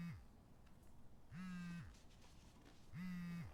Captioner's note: phone vibrating